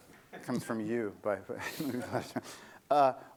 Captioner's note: laughter